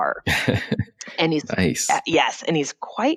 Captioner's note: laughs